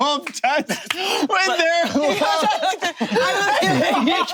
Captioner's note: group laughing